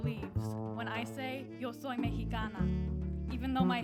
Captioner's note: speaks in foreign language